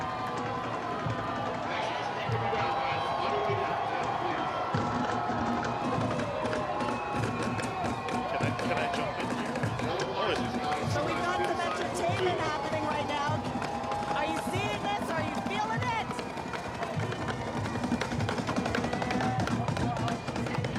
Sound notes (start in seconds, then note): 4.2 cheering; 12.0 drums beating